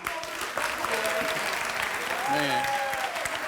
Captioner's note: clapping